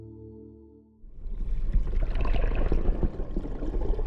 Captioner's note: running water